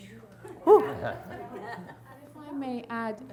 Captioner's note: audience chuckles